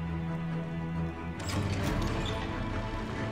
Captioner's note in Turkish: Kapı açılma sesi